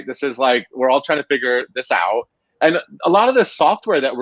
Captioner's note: none